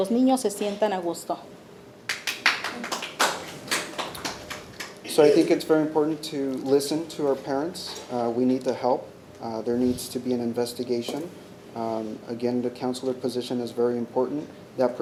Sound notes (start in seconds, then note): 2.0 attendees clapping